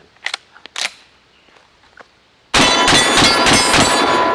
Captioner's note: gunshots